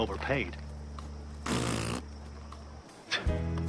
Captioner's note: raspberry